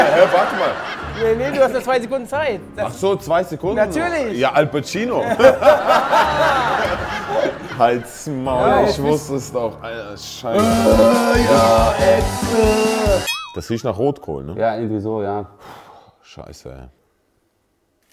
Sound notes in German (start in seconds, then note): 5.3 Lachen; 13.2 Boing; 16.2 Seufzen